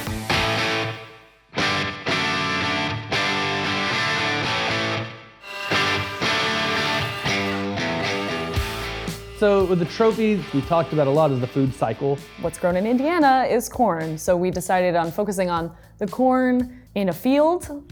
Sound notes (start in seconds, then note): 0.0 upbeat rock music; 5.4 tools whirring